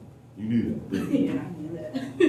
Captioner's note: laughter